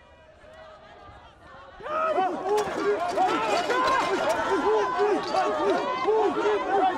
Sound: indistinct cheering

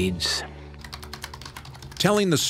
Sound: keys clicking

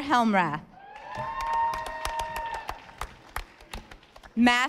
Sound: audience applauding

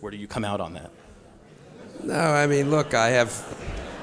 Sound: audience laughs

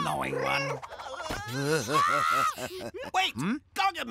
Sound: screaming

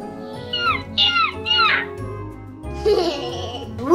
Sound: screeching; laughs

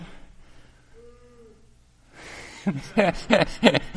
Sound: yawn; laughter

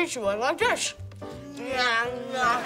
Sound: chewing loudly

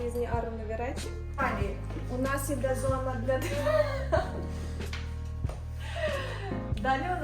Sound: started laughing from operator's face 😅

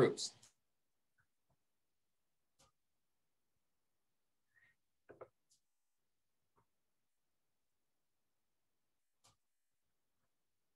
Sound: silence

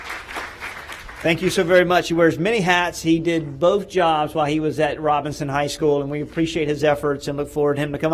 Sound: applause

